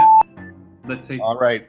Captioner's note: timer beeps